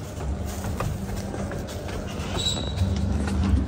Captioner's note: footsteps trodding